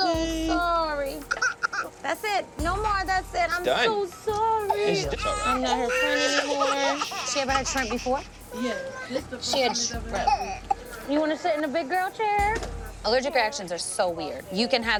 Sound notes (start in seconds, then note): 1.2 crying